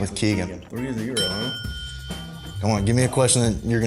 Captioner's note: ding